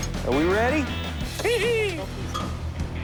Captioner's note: laughs